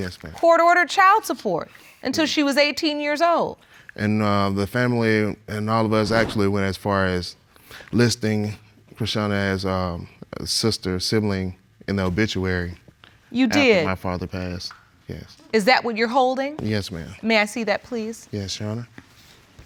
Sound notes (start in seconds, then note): none